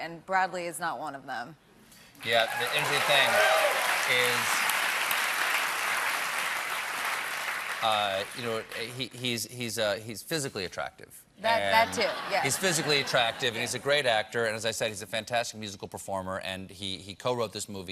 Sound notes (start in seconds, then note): 2.2 applause